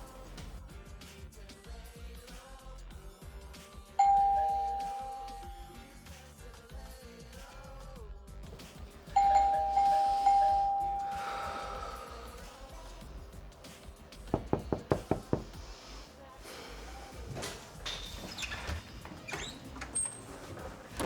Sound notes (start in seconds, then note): 4.0 door Bell; 9.1 rapid Door Bell Ringing; 17.8 door Squeaks